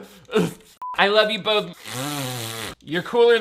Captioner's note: gagging; beep; blows raspberries